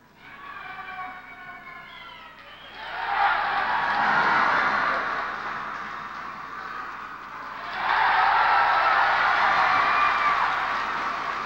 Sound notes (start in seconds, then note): 2.3 loud applause; 7.5 loud applause